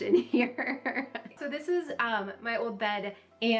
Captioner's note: laughing